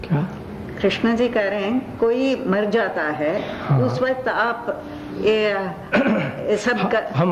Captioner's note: discussion in Hindi